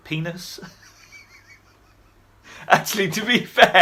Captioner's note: chuckling